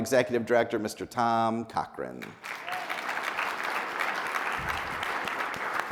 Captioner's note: people applauding